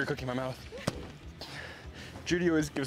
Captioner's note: car door thudding